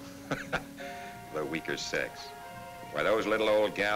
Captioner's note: chuckles